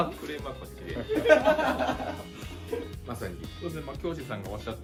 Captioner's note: laughs